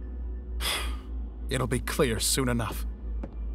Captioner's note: sighs